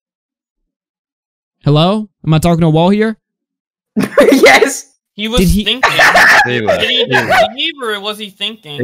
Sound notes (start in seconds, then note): 5.5 laughs